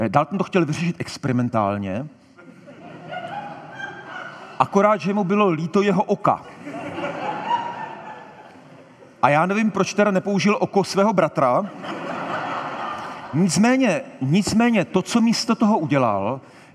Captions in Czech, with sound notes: Dalton to chtěl vyřešit experimentálně... (Smích) akorát že mu bylo líto jeho oka. (Smích) A já nevím, proč teda nepoužil oko svého bratra... (Smích) Nicméně... nicméně, to co místo toho udělal,